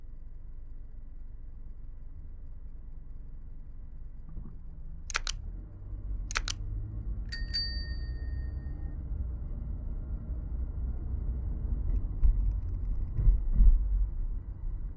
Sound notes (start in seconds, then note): 7.3 bell ringing